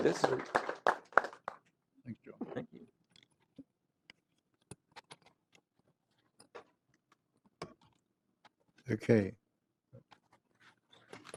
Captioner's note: applause